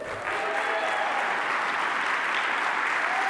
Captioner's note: applause